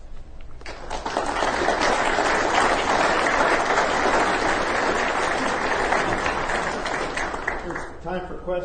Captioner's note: applause